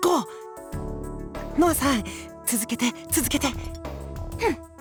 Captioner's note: hushed